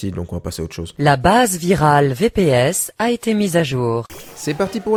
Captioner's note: French alert sound of Avast antivirus